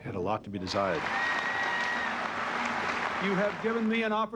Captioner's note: applause